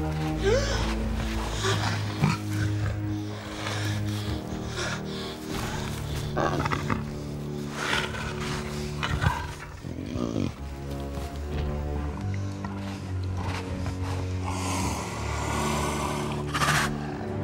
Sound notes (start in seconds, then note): 0.1 gasping; 5.6 growling